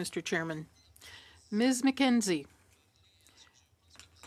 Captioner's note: speaking French